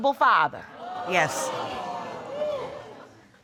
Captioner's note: audience exclaims